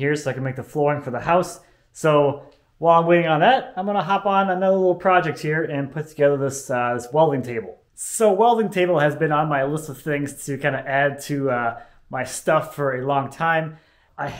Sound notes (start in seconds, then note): none